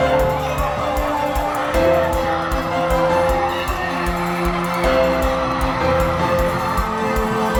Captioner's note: cheers and applause